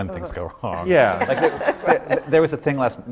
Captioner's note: laughter